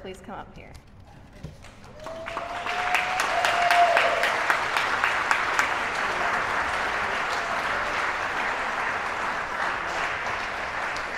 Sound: applause

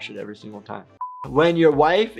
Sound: buzzer beeps

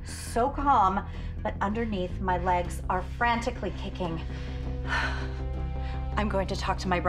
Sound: sighs

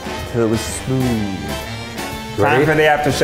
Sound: faintly speaking

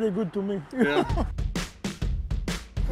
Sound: laughs

